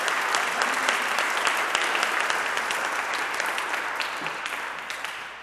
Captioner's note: audience applauding